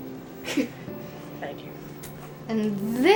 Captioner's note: chuckles